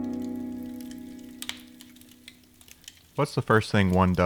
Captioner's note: flames crackle